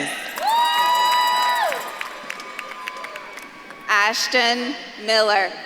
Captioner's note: audience claps and cheers